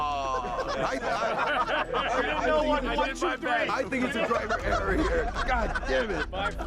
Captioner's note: laughter